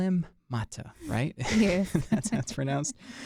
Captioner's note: both chuckle